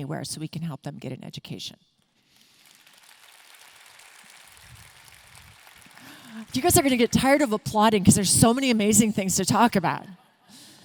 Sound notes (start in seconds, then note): 2.4 audience clapping